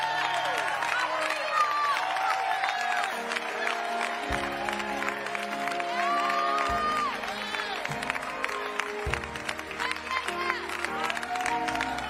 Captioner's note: applause